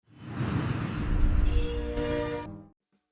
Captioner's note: air whooshing